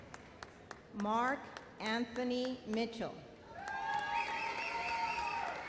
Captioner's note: audience cheers